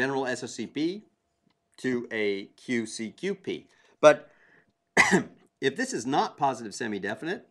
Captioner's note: cough